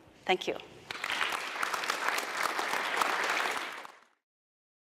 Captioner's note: audience applauding